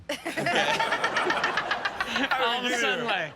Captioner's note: Chanel and audience laughing